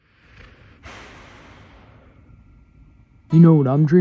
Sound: dog snoring

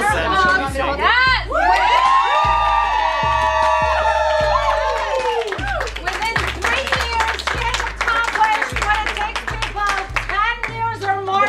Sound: yelling; clapping

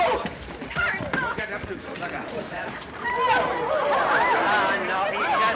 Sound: all clamoring

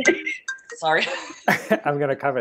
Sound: laughs

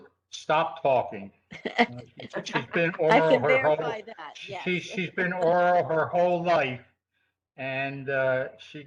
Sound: laughter

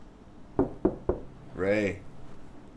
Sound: knocking

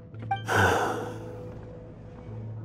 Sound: sigh

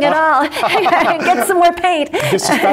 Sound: laughs

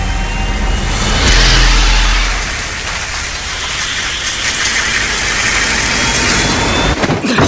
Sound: engine sound rises, hissing; electrical discharges; electronic music plays; restaurant noise

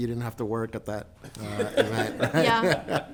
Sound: group laughs

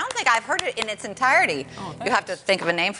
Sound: applause

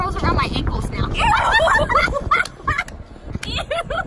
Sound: all laughing

